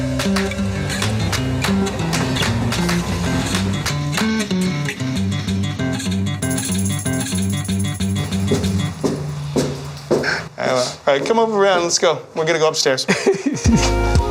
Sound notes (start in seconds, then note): 8.7 footsteps